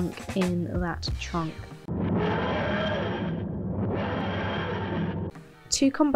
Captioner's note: tardis sound